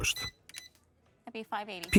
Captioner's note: cash register beeping